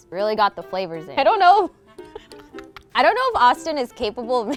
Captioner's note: laughs